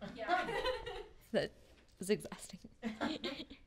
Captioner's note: laughing